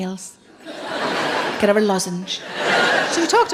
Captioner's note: laughing